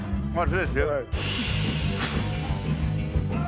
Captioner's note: spits